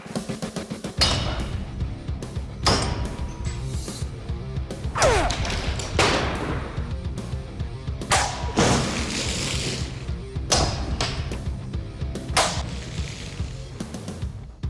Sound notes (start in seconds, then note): 5.0 grunting